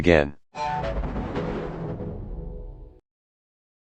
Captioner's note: Anti 3D Evil Windows XP Shutdown Sound